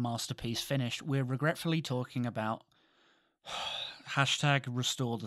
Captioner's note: sighs